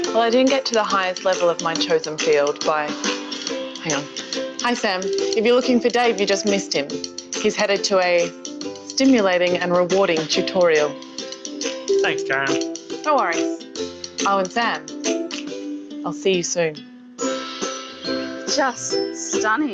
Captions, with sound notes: - Well, I didn't get to the highest level of my chosen field by him. Hi Sam, if you're looking for Dave, you just missed him. He's headed to a stimulating and rewarding tutorial. - Thanks (faintly speaking) - Always. Sam, I'll see you soon. - Just stunning.